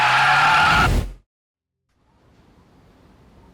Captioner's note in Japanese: 叫び声